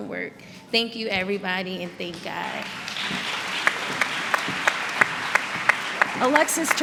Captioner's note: applause